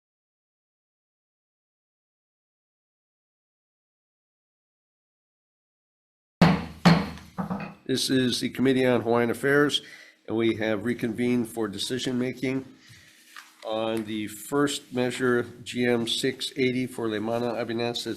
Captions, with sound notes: (gavel banging) This is the Committee on Hawaiian Affairs and we have reconvened for decision making. On the first measure, GM680 for Leimana Abenes,